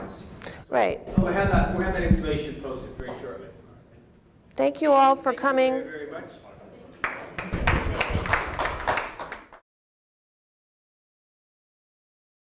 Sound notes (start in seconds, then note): 7.0 applause